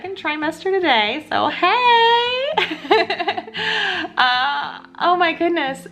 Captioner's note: laughs